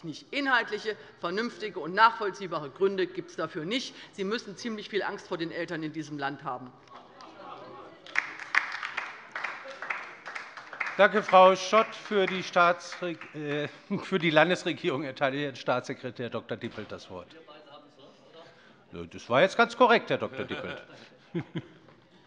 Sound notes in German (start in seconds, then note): 8.0 Beifall bei der LINKEN